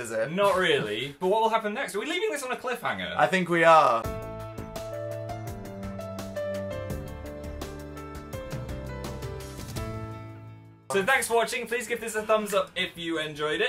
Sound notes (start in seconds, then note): none